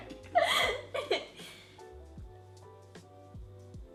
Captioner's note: laughs; soft electronic music